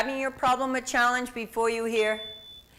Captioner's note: chime